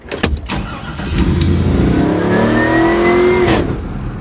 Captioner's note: car engine revs